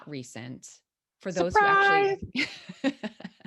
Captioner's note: laughs